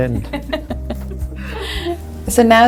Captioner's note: all laugh